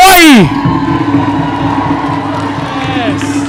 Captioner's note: applause